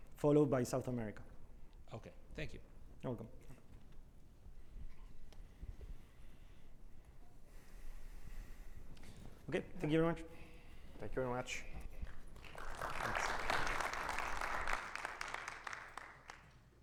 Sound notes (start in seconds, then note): 15.3 audience applauding